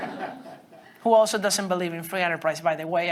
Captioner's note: students laughing